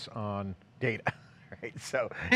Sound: giggles softly

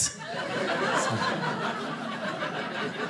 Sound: audience laughing

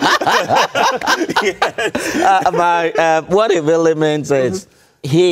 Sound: laughter

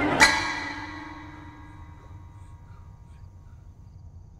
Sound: rocking chair sound stops

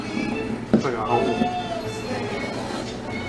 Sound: laugh

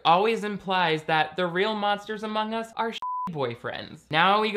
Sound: beep

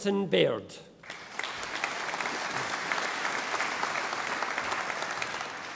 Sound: audience applauding

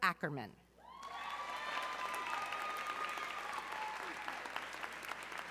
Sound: audience cheering

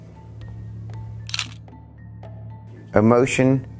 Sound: camera clicks

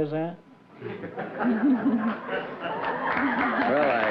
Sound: laughter

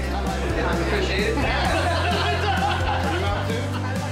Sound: upbeat music; laughter; upbeat music

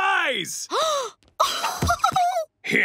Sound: gasping

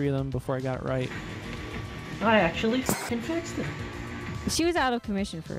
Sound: 3D printing noise, muffled techno music in background

